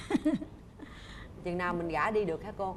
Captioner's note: laughing and nodding